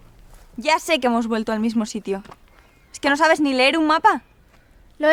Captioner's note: almost screaming